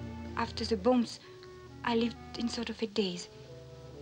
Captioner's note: none